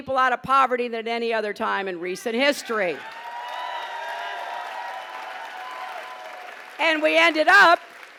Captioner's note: applause